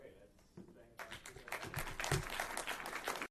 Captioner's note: applause